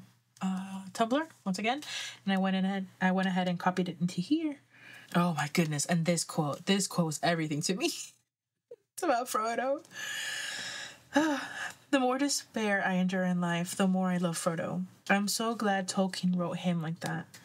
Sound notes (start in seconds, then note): 11.1 sighs